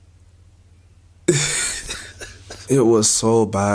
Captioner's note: laughs